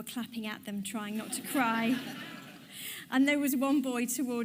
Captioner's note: audience laughs